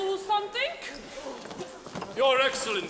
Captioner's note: footsteps thudding